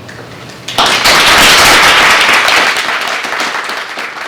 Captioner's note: applause